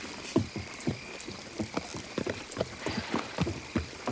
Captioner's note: hooves clop